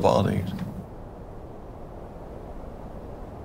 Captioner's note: soft rustling